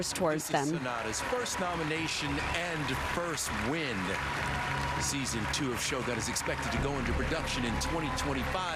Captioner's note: applause